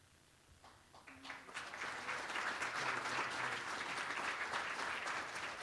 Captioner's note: applause